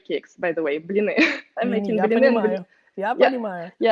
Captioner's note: laughs